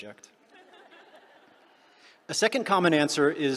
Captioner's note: laughter